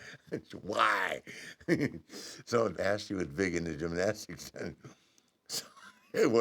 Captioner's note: laugh